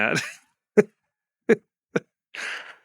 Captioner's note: laughs